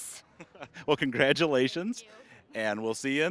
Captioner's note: laughing